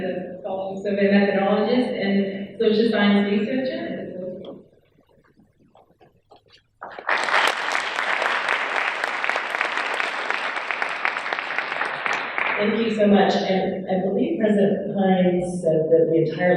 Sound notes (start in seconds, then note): 6.8 audience applauding